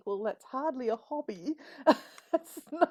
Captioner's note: laughs